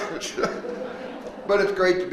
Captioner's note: all laughing